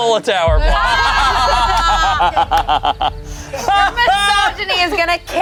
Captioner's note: everyone laughs